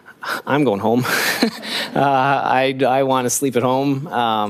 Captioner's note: laughing